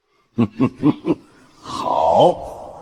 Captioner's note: sinister chuckle